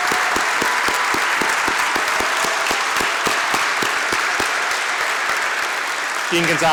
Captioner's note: applause